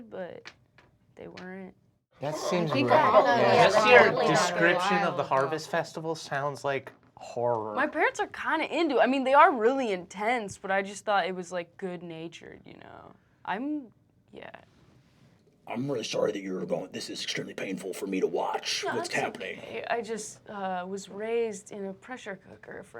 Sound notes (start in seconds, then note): 2.2 everyone chattering